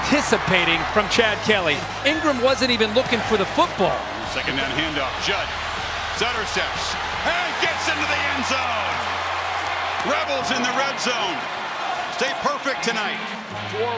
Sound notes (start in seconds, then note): 9.1 crowd cheering